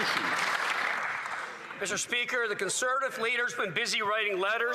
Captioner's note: applause